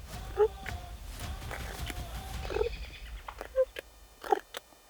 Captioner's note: turkeys purring